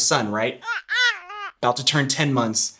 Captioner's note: baby babbling